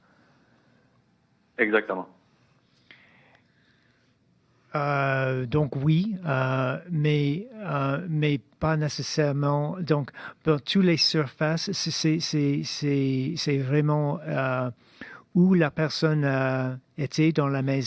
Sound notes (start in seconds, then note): 3.3 speaking in French